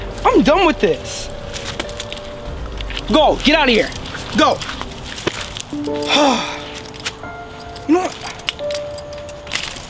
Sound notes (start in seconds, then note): 6.0 exhales; 6.3 sad music